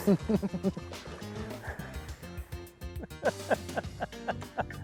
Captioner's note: laughs